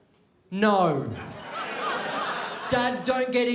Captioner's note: crowd laughs